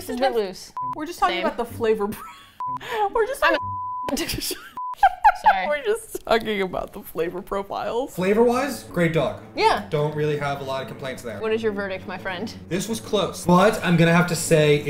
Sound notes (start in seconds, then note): 1.3 laughs; 4.1 all laugh